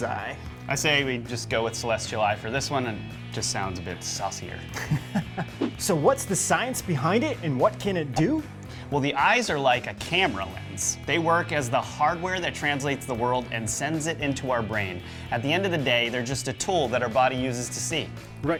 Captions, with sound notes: I say we just go with celestial eye for this one. It just sounds a bit saucier. (laughs) So what's the science behind it, and what can it do? Well the eyes are like a camera lens. They work as the hardware that translates the world and sends it into our brain. At the end of the day, they're just a tool that our body uses to see.